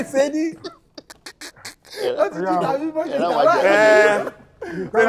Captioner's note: laughs